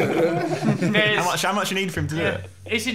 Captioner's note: laughing